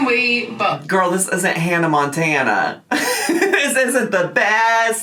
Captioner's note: laughing